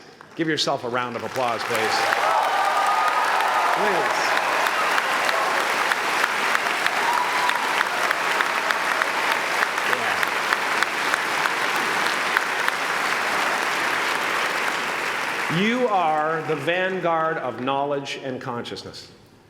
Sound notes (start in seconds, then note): 2.4 applause